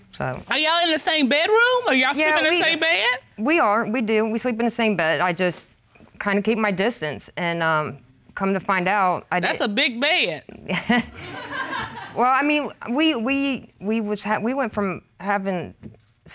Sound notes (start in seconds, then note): 10.7 chuckling; 11.0 audience laughs